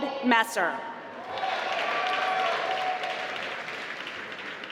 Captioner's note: applause